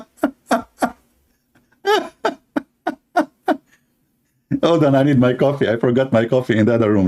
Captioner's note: laughter